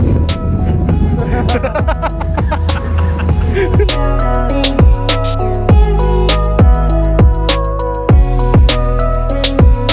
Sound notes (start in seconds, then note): 1.2 both laughing; 3.3 upbeat music